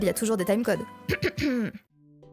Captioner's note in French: se racle la gorge